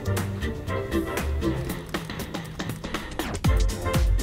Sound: chatting

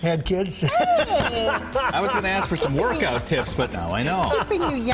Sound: laughter

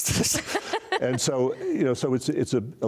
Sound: laughs

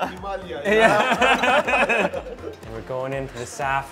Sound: laughing

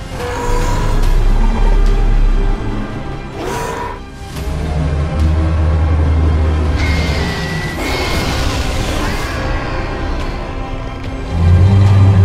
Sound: screeching and roaring sounds of attack

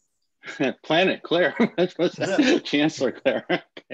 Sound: laughter

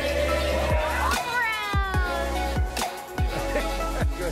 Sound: upbeat music playing; cheering

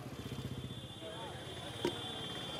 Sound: traffic sounds

